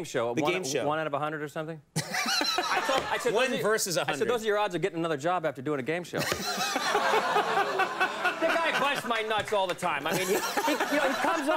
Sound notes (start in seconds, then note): 2.0 Conan laughing; 2.1 audience laughing; 7.7 audience laughs